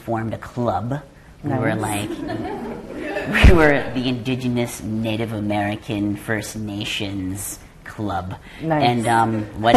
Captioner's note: laughter